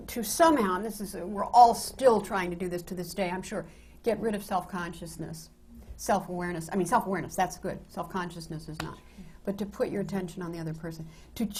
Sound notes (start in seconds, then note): none